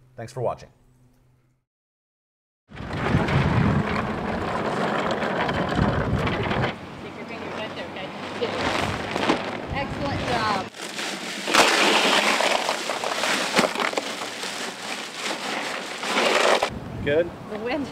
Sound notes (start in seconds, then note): 2.7 rolling sounds; 6.6 ice pouring